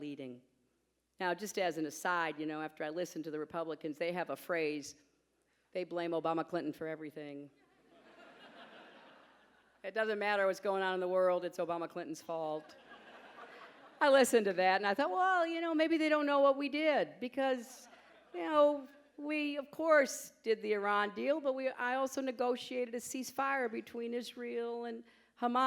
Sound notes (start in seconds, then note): 7.7 laughter